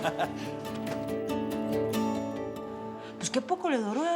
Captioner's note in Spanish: Ríe